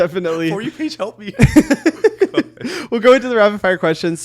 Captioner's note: both chuckling